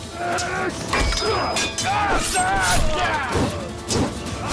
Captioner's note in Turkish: Dövüş sesleri